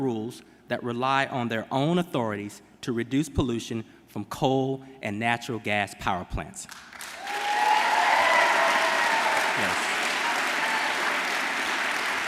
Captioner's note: applause